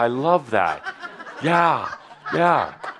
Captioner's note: laughter